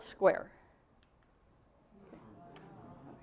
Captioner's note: crowd noise